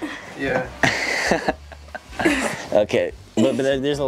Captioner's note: laughing